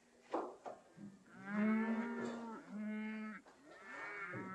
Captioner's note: cattle mooing